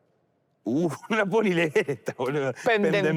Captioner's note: laughs